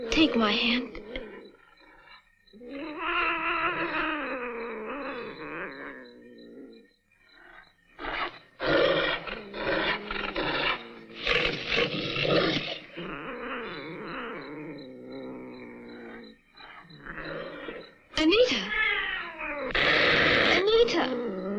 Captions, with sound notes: Take my hand... (GROWLING) Anita... Anita!